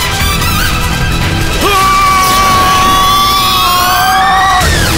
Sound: Melbu or Zieg screaming

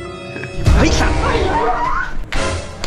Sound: screams

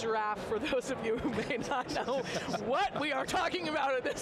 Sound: laughs

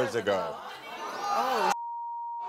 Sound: audience ohs; beep

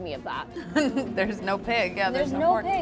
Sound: laughs

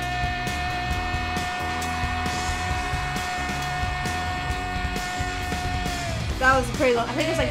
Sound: audience cheering; intense upbeat music

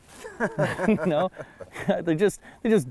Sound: laughter

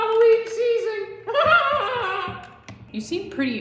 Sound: unhinged laughter

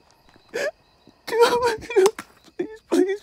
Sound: flashlight clicking; Chad sobbing

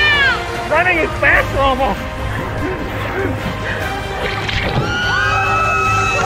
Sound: laughing; breathing heavy; screaming

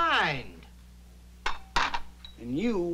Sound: glasses clink

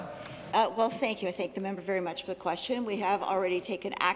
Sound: some Applause

